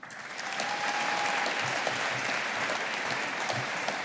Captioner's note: audience applauding